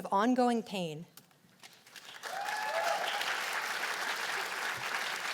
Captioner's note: cheers and applause